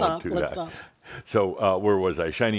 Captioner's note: chuckling